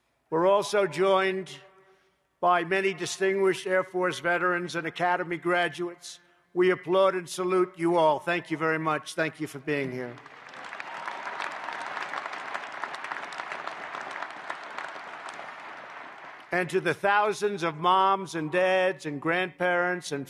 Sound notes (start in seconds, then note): 10.0 applause